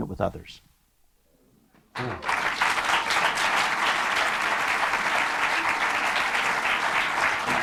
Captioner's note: applause